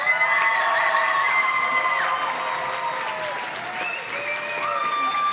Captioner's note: audience cheers and claps